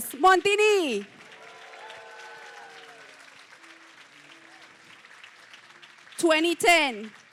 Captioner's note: applause, cheering